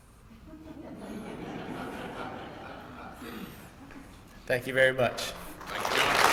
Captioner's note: laugh; applause